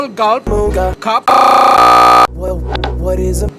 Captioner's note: stutter loop